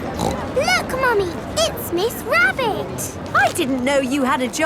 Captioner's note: snorts